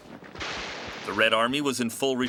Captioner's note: gun fires